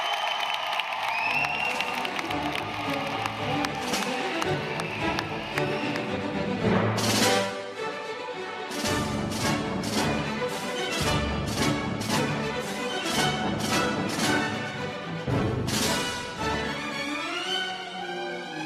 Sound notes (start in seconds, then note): 5.3 applause; 5.7 cheers